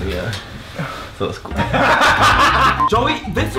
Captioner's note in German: Beide lachen